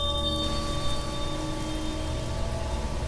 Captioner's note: wind blows